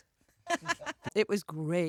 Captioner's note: laughter